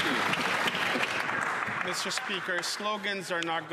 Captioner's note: some Applause